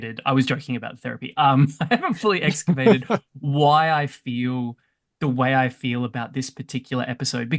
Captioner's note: laughs